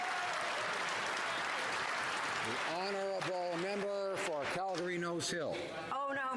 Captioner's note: some Applause